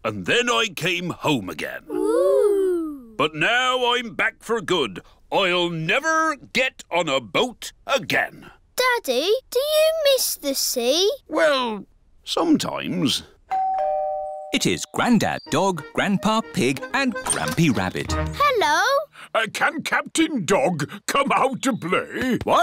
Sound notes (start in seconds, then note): 13.5 doorbell dings